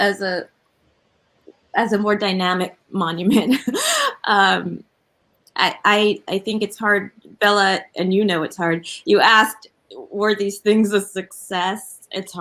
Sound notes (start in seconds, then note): 3.4 laughs